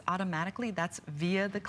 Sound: electronic voice

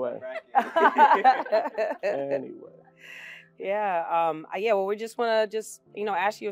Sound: laugh

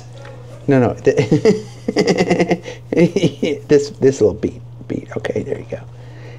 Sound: laughing

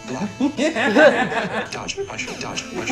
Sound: laughs

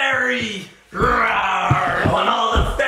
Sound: growl

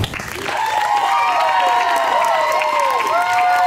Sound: crowd applauds and cheers

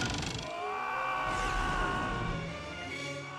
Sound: screaming

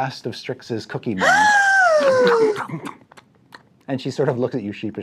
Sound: gasps

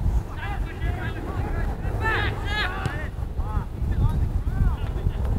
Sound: players talking and yelling

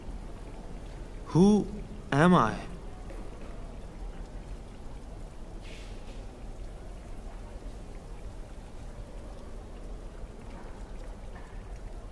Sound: sounds of the airport

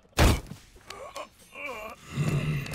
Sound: groaning

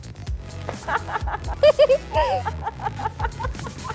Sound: laughing

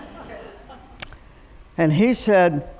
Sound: laughter

